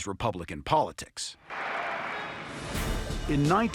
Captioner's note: applause